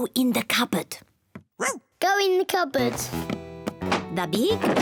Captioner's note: whispers; barks